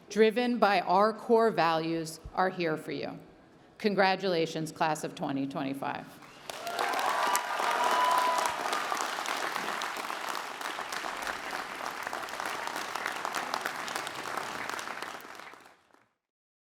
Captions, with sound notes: driven by our core values are here for you. Congratulations, Class of 2025! (audience applauding) (audience cheering) (audience applauding)